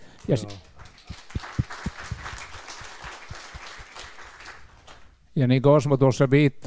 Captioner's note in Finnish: Aplodeja